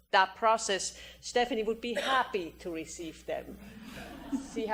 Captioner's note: audience laughter